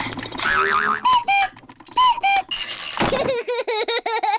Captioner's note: clock cuckoos; panting; laughs